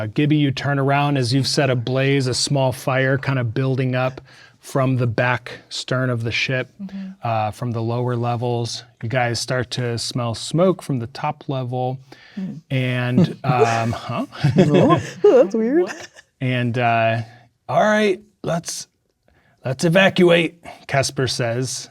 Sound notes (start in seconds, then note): 13.0 players reacting